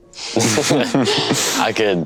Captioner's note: all laughing